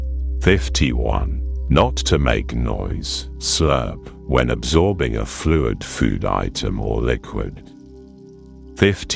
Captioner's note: slurp